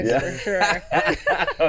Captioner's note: laughing